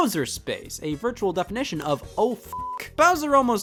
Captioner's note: beeps